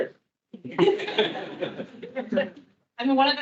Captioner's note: attendees laughing